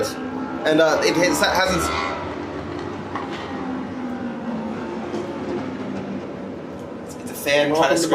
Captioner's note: motorbike engine roaring